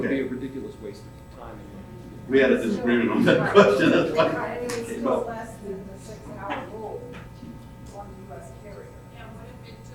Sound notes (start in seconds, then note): 4.9 audience chattering faintly